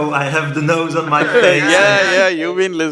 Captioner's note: laughs